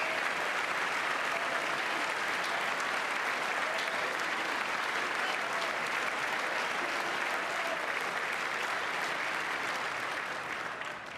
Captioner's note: applause